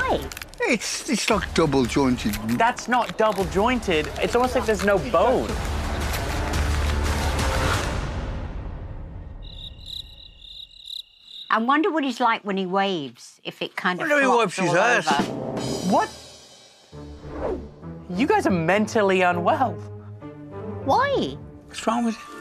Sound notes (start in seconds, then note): 9.2 crickets chirping